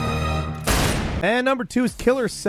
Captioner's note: gun blasting